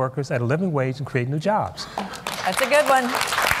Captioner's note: applause